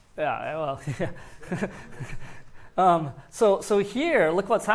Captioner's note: laughs